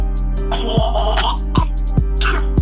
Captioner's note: snorting